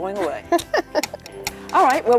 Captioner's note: laughs